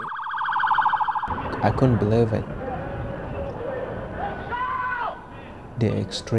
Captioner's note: siren wailing